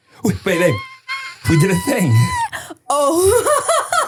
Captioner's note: person laughing